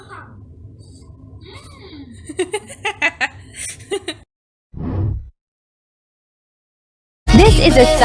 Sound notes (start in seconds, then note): 2.2 laughs